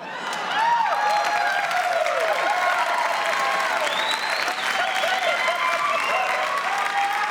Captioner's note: cheers and applause